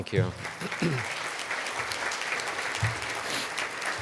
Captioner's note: applause